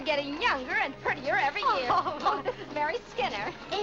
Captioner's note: Vinnie laughs